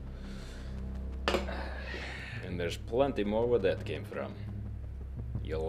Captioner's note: sighs